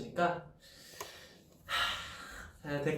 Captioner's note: sigh